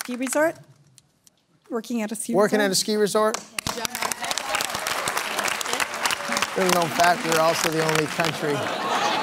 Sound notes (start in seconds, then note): 3.3 applause; 8.3 laughter